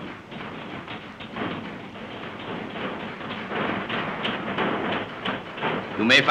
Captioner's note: hammering